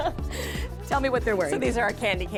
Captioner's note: laughter